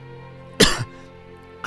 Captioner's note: cough